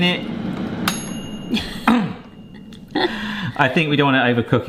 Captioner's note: bell dings